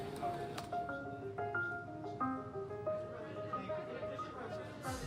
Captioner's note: indistinct chatter